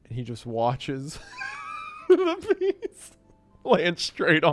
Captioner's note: laughing